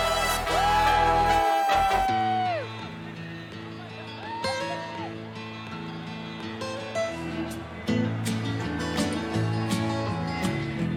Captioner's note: cheers and applause